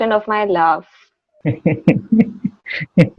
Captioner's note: laughter